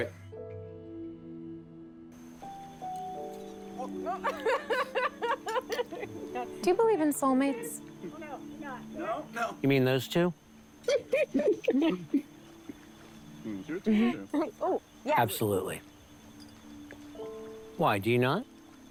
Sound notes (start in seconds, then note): 3.7 laughing